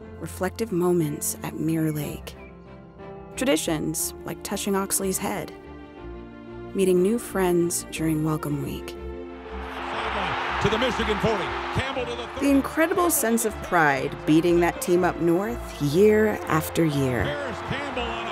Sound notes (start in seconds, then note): 9.5 crowd cheering